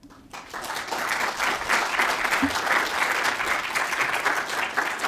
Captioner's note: participants clapping